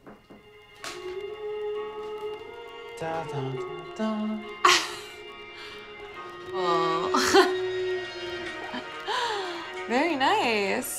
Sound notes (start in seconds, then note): 0.3 gentle music; 4.8 Sam chuckles; 7.0 chuckles